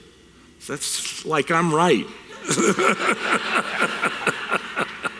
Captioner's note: audience chuckles